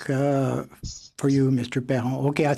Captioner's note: speaking in French